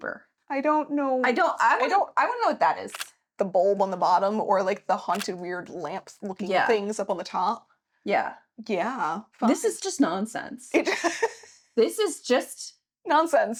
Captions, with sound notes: I don't know. I don't know what that is. The bulb on the bottom or like the haunted weird lamps looking at things up on the top. Yeah. Yeah. This is just nonsense. (laughing) This is just. Nonsense.